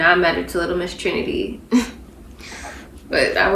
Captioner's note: giggles